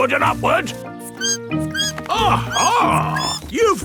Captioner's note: bat squeaking